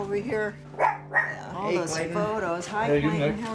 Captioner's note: dog barking